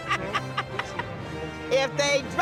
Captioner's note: laughs